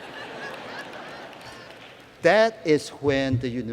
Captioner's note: laughter